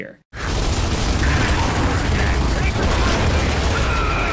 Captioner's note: guns firing